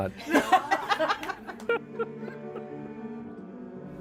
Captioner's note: lots of laughter